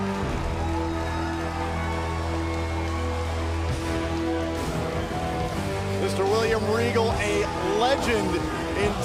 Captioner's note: cheers & applause